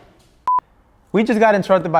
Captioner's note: beep